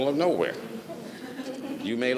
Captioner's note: audience laughs